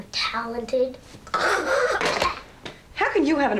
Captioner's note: imitates gagging